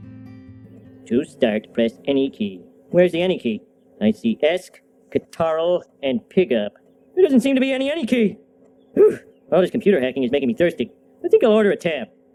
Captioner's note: A classic cartoon clip playing